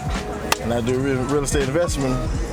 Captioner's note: claps